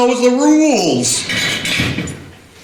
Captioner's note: metal clanking against metal